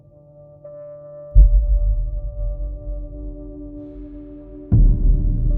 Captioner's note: explosion rumble